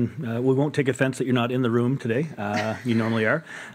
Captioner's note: laughter